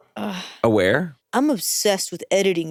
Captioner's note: sighs